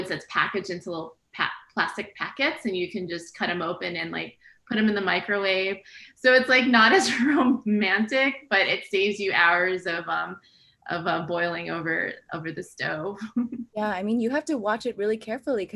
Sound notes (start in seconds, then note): 13.0 laughs